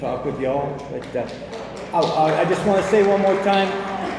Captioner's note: hands clapping